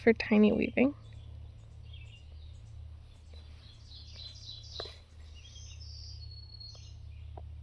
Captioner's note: birds chirping